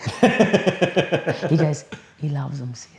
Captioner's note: laughs